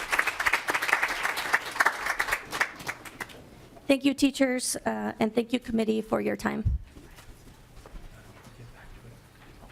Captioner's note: applause